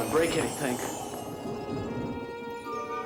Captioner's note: twinkling